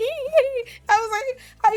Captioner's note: laughs